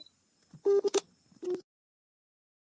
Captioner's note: dial tone